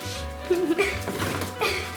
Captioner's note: laughter